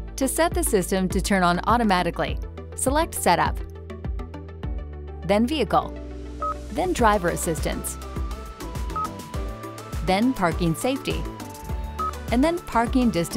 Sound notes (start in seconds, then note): 3.9 light music continues; 6.0 car beeping; 8.9 car beeping; 11.9 car beeping